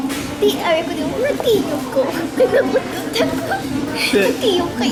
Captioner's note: laughs